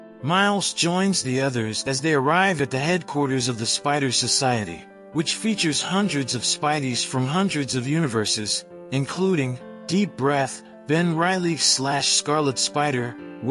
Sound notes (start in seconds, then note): 10.6 deep breath